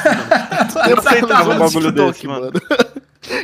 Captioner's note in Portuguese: risos